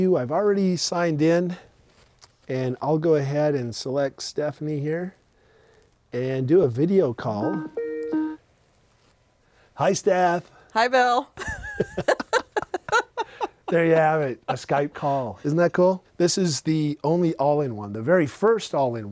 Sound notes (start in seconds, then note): 7.4 Skype ringing; 11.4 laughing